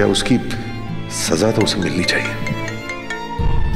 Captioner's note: Phone ringing